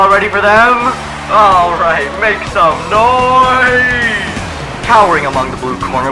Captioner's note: crowd cheers again